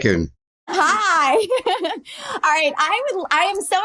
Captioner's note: chuckles